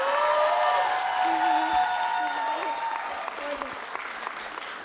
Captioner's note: applause